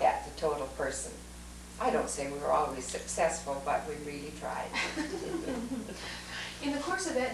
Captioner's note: laughter